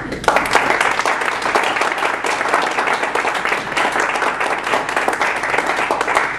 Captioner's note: applause